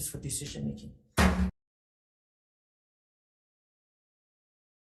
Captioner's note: gavel bangs